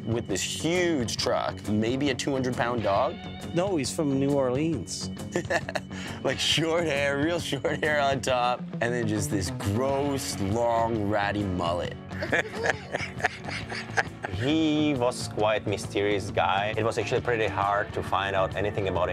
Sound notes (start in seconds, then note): 5.3 laughing; 12.1 laughing